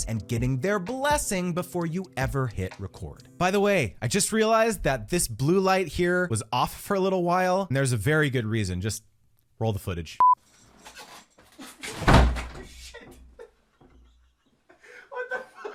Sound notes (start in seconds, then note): 12.0 thudding loudly; 13.8 laughing loudly